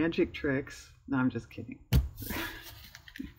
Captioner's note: laughs